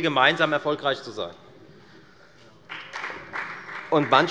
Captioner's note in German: Beifall bei der FDP